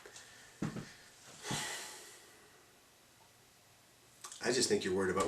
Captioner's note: sigh